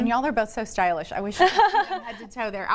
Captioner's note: girls laugh